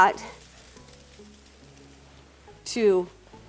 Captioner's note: rustling